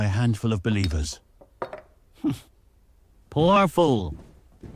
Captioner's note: sounds of ice cubes